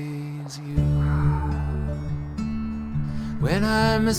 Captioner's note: sighing